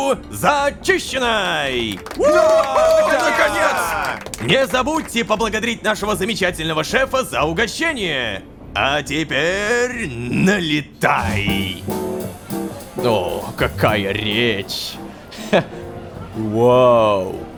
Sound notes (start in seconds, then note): 1.4 Joyful cheers from stormtroopers